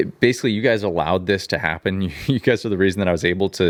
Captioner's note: chuckles